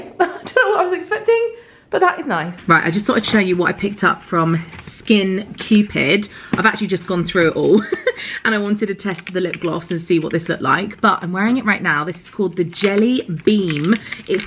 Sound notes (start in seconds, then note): 7.7 laughs